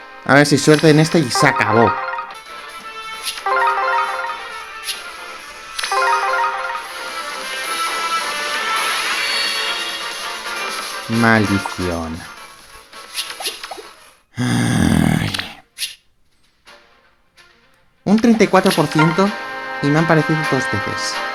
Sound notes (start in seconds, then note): 14.3 deep Sigh